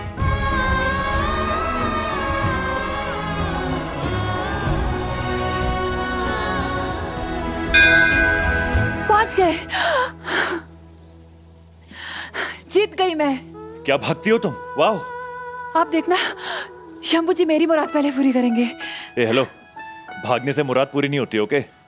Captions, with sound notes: [Romantic music] [Bell ringing] I reached. I won. You're a fast runner. Wow. Watch now. God will fulfil my wish first. Excuse me. Wishes don't get fulfilled just by running.